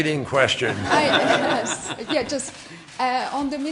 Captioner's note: laughter